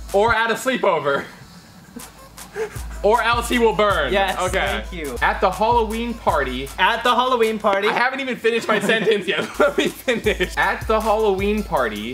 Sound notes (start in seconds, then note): 1.1 laughs